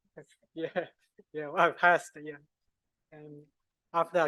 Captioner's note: laughs